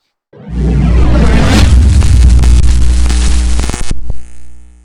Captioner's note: neon light flickering